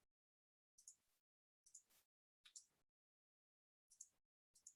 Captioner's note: mouse clicking